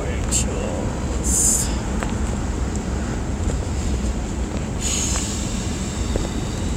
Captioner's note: clicking around and noises of frustration